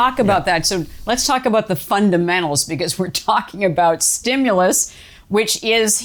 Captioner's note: laughs